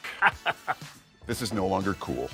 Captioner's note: laughing